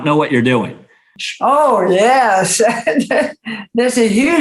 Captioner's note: laughs